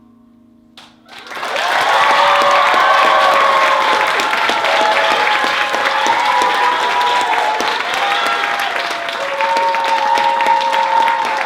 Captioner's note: applause